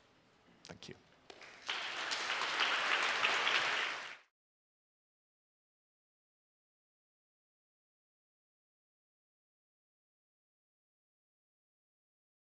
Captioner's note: applause